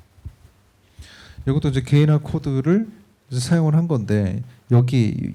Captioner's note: speaking korean